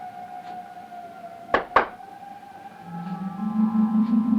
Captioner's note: exotic music; claps hands